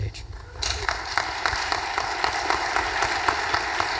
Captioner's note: audience applause